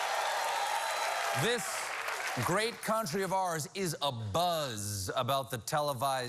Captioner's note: cheers and applause